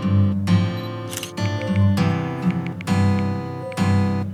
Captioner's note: sound of taking photo and typing; music and typing